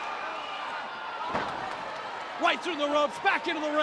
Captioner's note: Ric thudding on ring